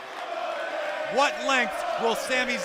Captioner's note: fans chanting